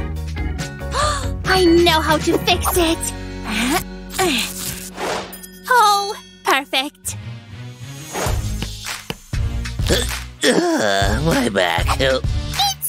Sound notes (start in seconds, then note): 7.3 groaning